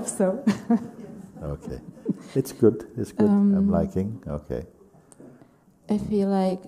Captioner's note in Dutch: lacht